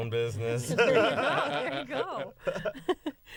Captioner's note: laughter